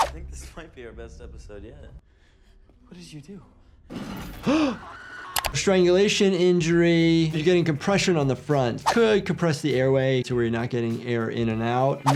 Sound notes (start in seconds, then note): 4.4 gasps